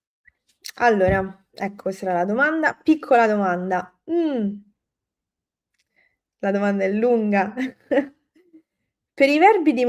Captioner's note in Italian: risate